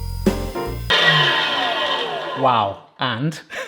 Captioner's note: mincer buzzing